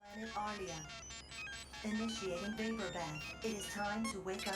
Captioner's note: electronic beeping